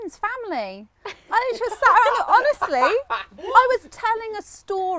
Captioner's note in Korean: 웃음